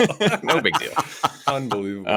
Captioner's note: laughter